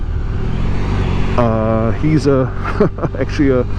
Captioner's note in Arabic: ضحكة